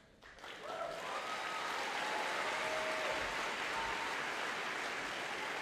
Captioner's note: audience applauding and cheering